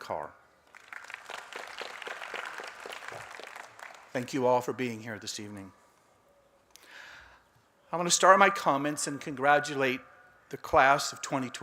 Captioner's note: applause